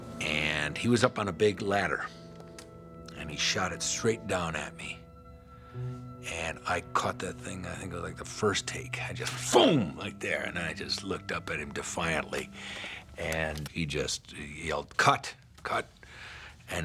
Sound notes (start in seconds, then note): 9.3 exclaims